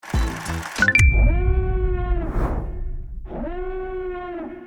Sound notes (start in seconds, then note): 0.0 letters shuffling; 1.0 alarm sounding